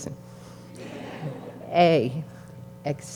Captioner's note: graduates chucking